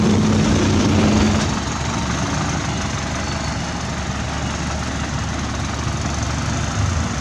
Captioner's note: truck Rev